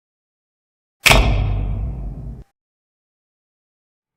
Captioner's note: old spotlight 'thunking' on